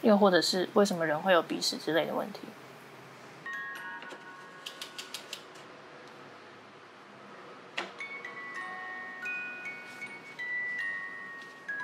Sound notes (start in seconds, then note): 5.0 gears winding